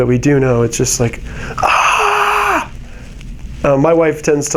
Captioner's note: screaming